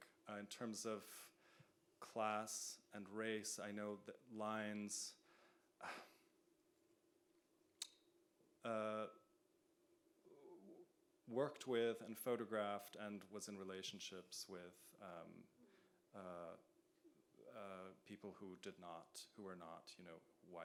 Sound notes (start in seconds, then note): 5.8 sighs